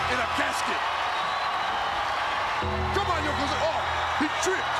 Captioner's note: applause